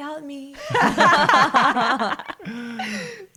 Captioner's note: all laugh